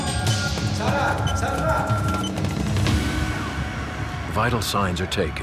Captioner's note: man speaking in foreign language